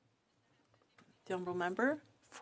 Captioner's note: speaking french